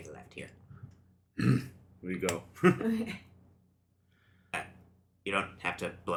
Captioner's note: grunts in agreement